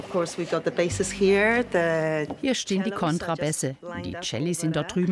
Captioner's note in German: englisch